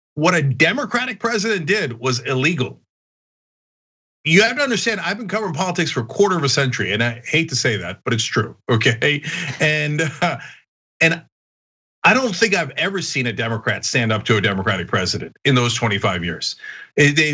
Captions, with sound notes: say, what a democratic president did was illegal. You have to understand I've been covering politics for quarter of a century and I hate to say that, but it's true, okay? [LAUGH] And I don't think I've ever seen a Democrat stand up to a Democratic president in those 25 years.